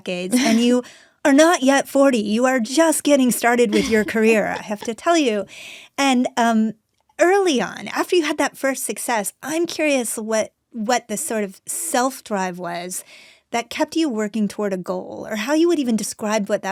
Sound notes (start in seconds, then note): 0.3 Anna chuckles; 3.6 Anna laughs